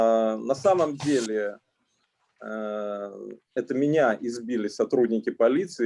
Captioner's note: speaking Russian language